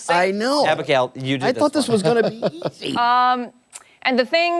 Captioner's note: laughter